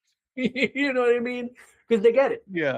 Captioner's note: laughs